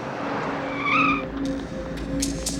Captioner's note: screech